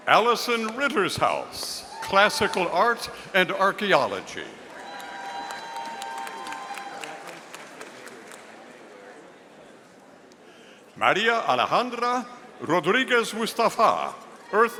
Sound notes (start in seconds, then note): 4.7 audience applauding